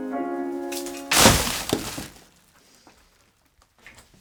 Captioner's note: crashes